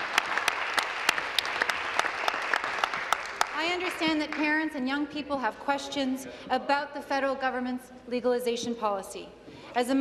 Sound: applause

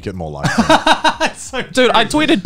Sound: chuckling

